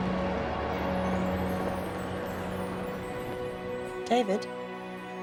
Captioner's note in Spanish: campanadas tintineando